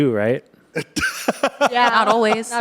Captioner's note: laughs